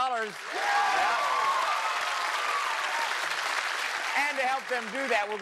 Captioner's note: cheers and applause